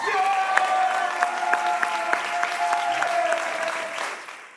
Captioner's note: audience applauding